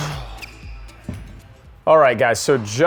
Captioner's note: ball bangs